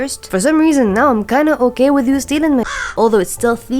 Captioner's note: caw